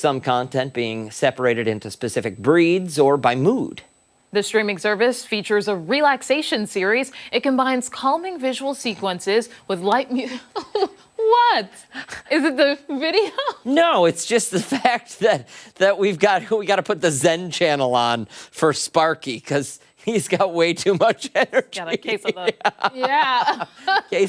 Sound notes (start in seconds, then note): 14.6 laughter